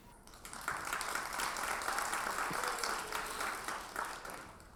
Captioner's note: audience applauds